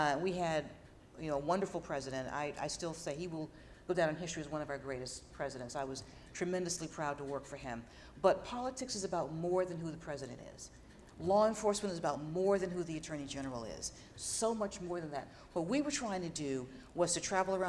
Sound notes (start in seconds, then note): none